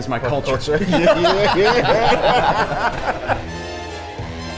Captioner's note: group laughs